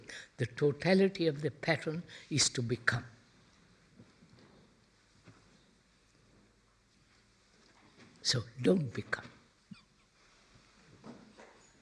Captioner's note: laughs